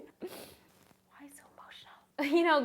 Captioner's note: whispering